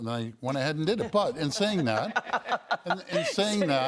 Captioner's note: other leaders laughing